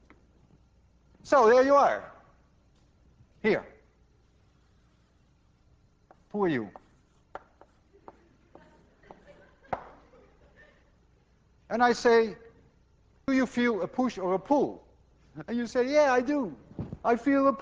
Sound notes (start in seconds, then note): 6.4 class laughs